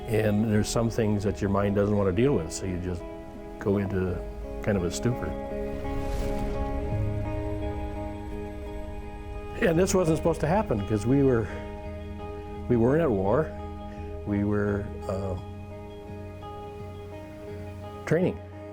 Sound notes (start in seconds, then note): 5.4 explosions; 6.3 soft music